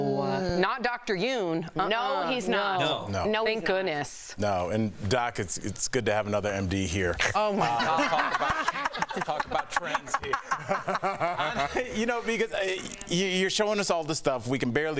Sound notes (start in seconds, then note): 4.0 laughter; 12.2 laughter